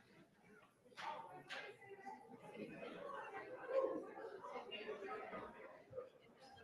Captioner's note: audience chatter